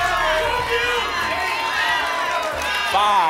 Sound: audience shouting numbers

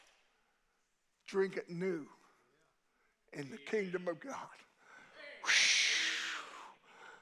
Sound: shushing

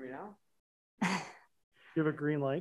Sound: laughs

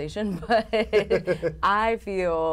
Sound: laughter

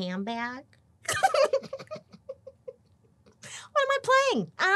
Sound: laughing

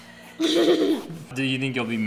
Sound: laughing

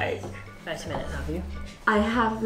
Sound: women conversing quietly

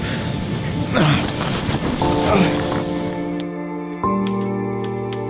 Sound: Walter groans; somber music; typewriter keys clacking

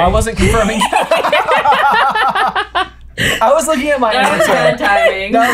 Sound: laughter

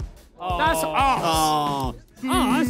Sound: players groan

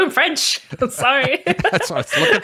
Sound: laughs

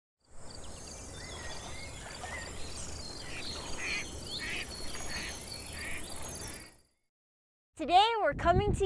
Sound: birds chirpping, ducks quacking

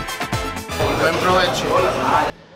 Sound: speaking in foreign language

